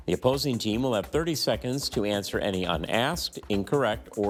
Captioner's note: none